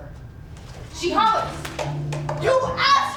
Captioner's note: snap